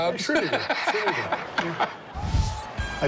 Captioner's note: laughs